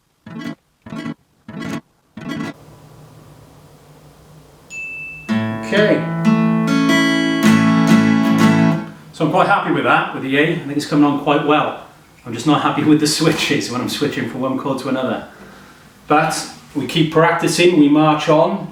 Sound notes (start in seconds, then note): 5.1 alarm Sounds; 6.8 plucking Guitar Strings